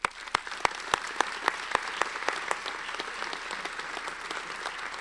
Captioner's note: audience applauding